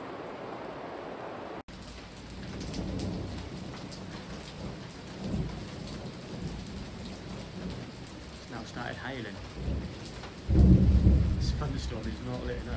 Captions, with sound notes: (falling hail and distant thunder) it's now started hailing (Deep rumble of thunder) this thunderstorm is not letting